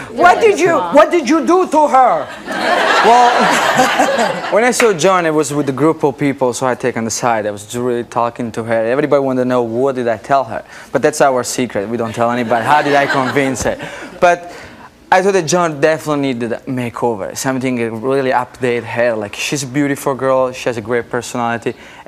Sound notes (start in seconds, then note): 2.1 audience laughing